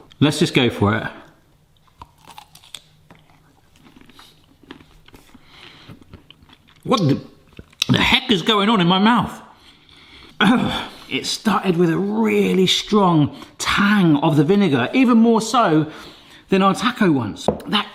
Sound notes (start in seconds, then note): 1.8 snickle crunches; 10.4 grunts